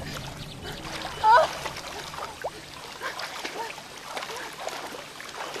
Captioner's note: Kate whimpering